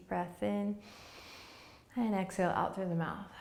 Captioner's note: inhaling